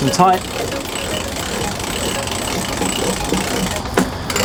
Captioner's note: winch turning